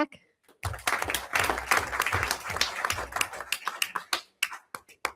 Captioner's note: everyone applauds